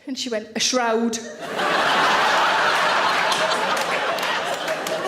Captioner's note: audience laughing